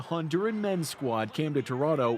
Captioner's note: cheers and Applause